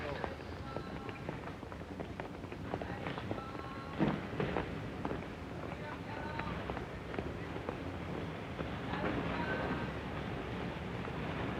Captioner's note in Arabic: ثرثرة خافتة